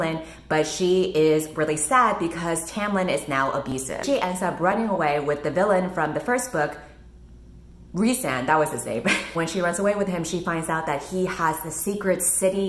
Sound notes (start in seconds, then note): 8.9 laughs